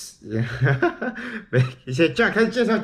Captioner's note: mysterious laughter